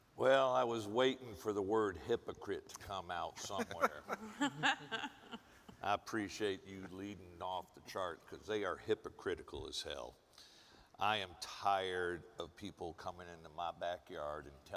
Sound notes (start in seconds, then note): 3.5 panelists chuckle